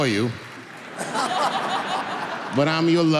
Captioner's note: audience laughing